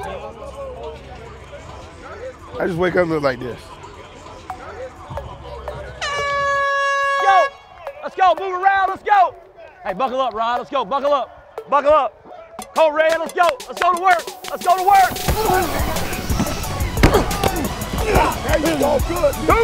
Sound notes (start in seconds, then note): 6.0 airhorn